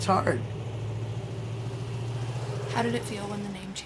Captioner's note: engine roaring